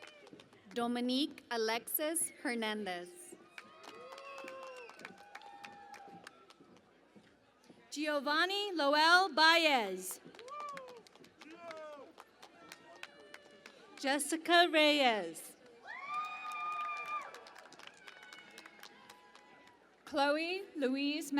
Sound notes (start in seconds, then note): 3.4 cheering and Applause; 15.5 cheering and Applause